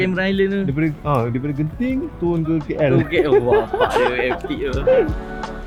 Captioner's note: laugh